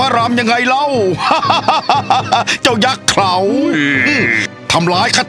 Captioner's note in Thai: หัวเราะ